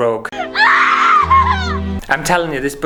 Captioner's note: crying!